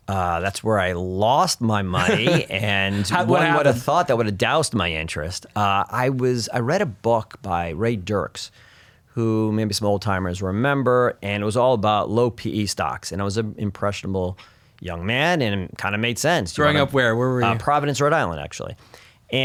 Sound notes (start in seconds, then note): 1.9 laughs